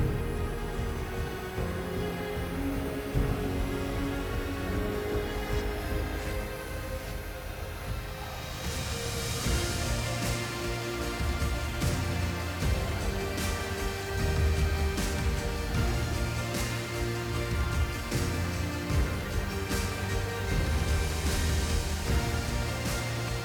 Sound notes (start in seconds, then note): 0.1 blower whooshing; 0.1 gentle music; 8.6 blower whooshing; 8.6 gentle upbeat music; 18.3 blower whooshing; 18.3 gentle upbeat music